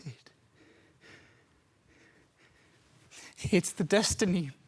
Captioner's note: soft breathing